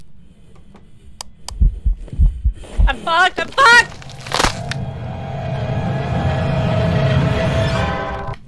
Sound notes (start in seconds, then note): 1.4 heartbeats, growing louder; 3.8 dramatic music as dies